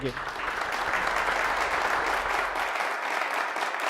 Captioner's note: audience applauds